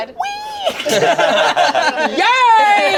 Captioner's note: group laughs